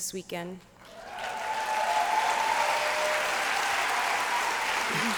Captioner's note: applause